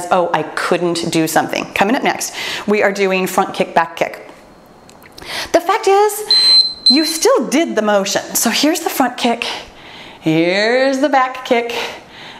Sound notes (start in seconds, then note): 6.2 timer beeps